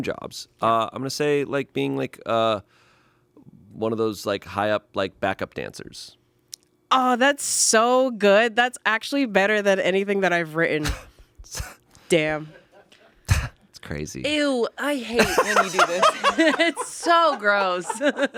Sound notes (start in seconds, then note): 13.2 scoffs